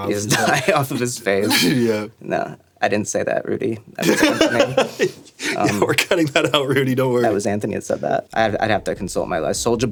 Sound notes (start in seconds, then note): 4.0 laughing